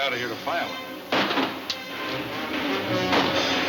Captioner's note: guns firing